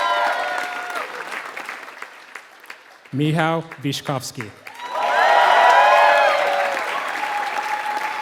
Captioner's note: applause